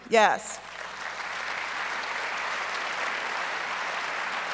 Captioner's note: audience applauds